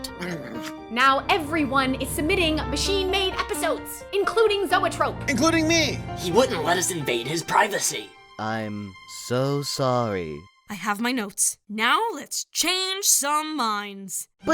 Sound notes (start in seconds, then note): 8.3 sarcastically